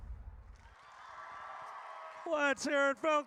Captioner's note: audience cheers